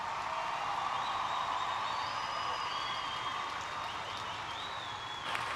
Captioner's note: audience cheers and applauds